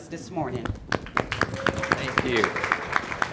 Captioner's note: audience clapping